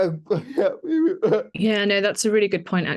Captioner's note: laughing